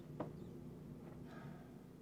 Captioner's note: sighs